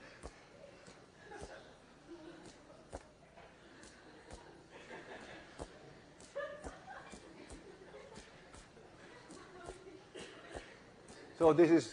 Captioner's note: laughter